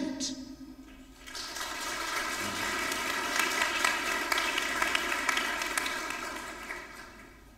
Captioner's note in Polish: oklaski